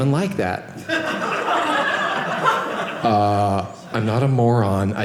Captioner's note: audience laughing